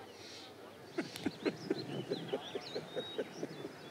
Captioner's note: Sobbing